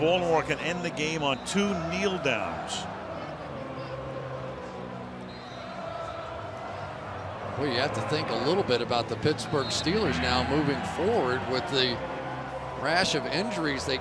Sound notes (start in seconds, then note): 3.7 crowd chanting